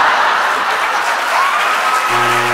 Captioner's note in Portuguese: campainha e aplausos